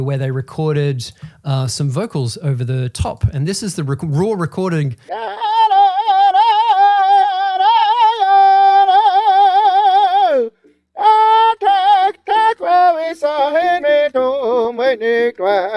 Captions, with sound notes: where they recorded some vocals over the top. And this is the raw recording. (man vocalizing) (man vocalizing in foreign language)